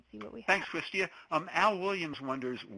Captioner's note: voiceover